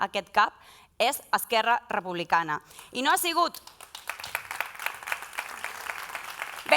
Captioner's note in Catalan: aplaudiment